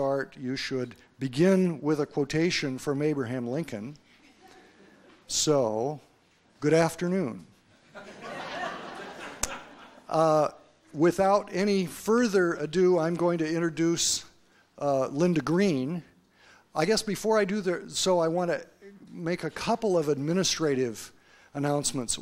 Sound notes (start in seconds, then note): 4.1 quiet laughter from audience; 7.8 audience laughter